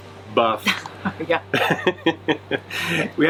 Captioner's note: chuckles; laughs